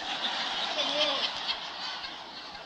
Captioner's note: risate, applausi